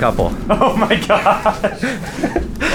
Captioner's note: laughs